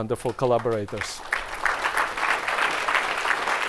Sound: applause

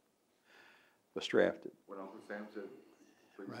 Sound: laughs

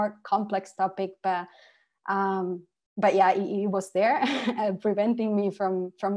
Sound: laughter

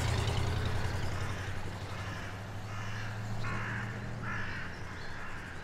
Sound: birds screeching

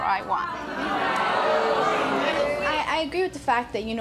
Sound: audience oohing

